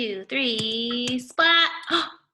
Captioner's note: splatting